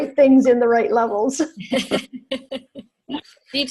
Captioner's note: laugh